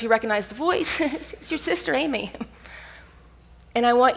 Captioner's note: laughs